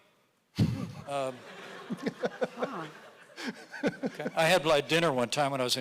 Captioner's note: audience laughing